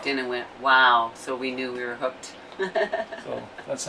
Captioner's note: laughs